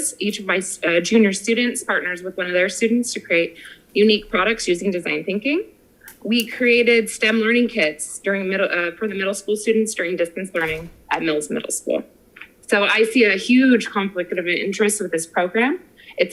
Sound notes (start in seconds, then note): none